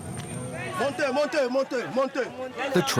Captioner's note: foreign language